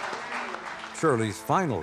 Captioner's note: crowd laughing